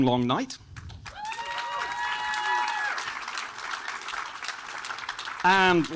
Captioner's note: audience applauding and cheering